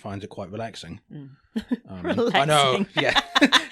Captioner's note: laughs